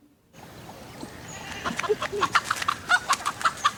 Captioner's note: the clucking of a chicken; girl's laughter